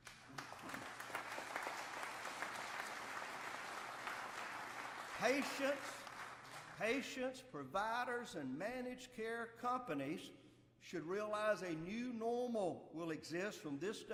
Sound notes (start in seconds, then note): 4.3 applause